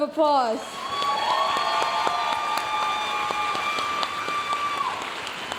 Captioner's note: audience cheering and applauding